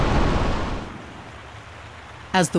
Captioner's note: water babbling